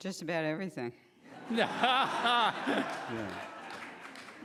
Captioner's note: laughing